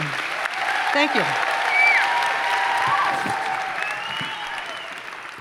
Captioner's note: audience applauds